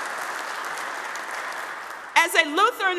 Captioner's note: audience applauding